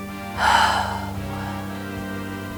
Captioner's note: sigh